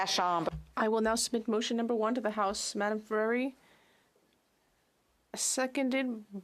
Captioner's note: speaking French